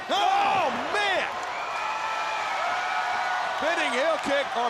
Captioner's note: crowd cheering